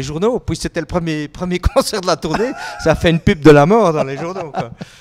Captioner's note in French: rires